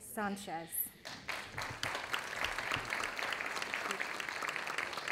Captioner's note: audience applauding